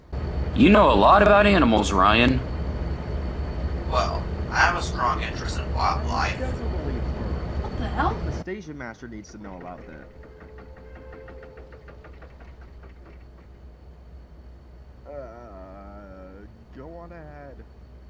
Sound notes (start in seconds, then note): 7.8 hears commotion